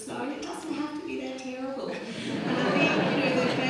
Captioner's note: audience laughs